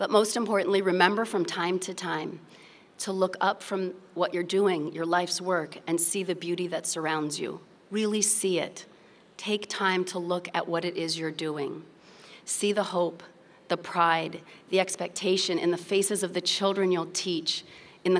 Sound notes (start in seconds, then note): none